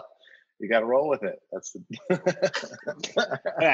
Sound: laughter

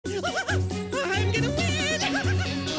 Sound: continues laughing

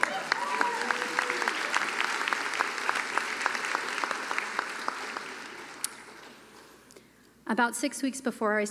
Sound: cheering and applause

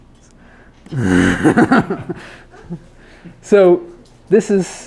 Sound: laughs

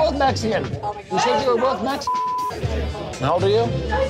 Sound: beep

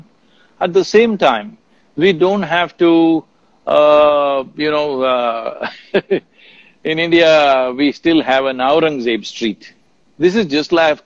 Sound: laughs

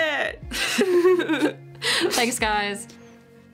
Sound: laughs

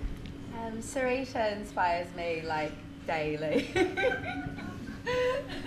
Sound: laughs

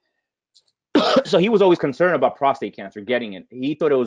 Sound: coughing

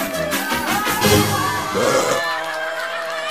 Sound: burps

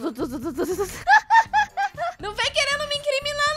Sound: laughing

